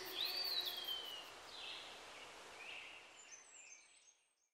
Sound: birds chirping

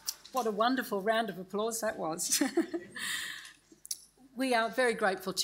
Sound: laughs

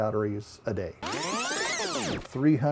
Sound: rewinding noise

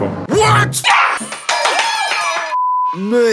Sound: applause

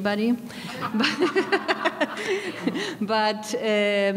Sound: laughing

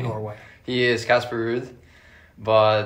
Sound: chuckling

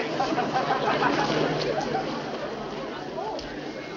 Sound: crowd rustles

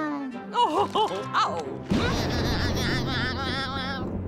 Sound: laughing

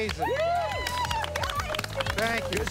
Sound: everybody applauding

